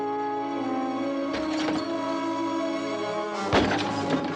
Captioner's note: glass shatters